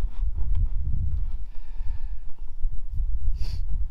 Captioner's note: footsteps